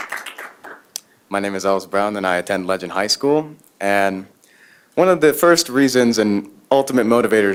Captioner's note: applause